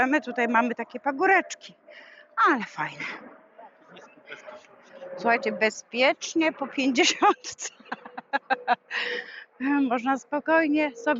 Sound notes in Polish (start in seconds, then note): 7.0 śmiech